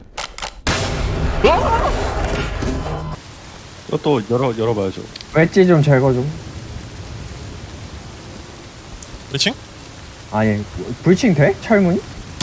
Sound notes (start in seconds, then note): 1.4 scream